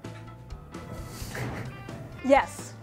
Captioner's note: chuckling